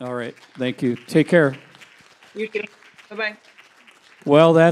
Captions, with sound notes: - Alright. Thank you. Take care. - You too. Bye-Bye. (audience applauding)